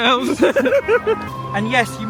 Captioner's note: laughing